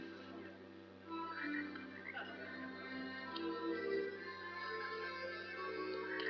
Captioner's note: frogs croaking